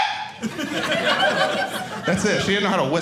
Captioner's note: audience laughing